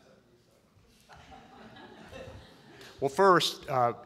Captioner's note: audience laughs